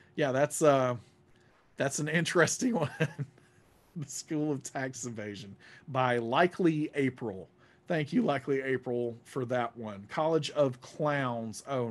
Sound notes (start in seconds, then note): 2.7 laughs